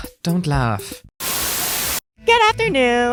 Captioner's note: Static